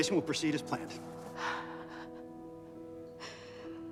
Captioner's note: Beverly exhales heavily